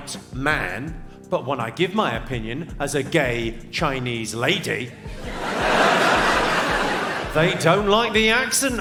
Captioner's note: audience laughs